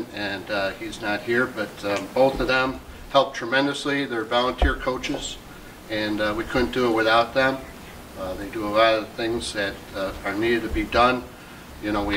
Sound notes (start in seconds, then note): none